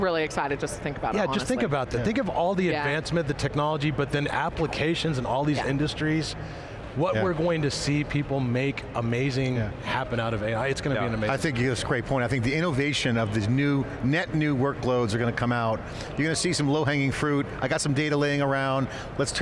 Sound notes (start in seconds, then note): none